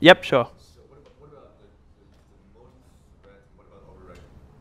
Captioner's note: voiceover